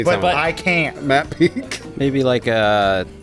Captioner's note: laughing